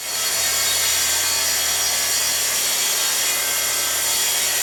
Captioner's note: machinery whirs